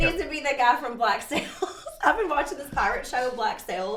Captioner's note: laughs